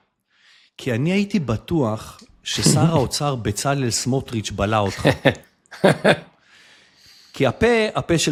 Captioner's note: laughter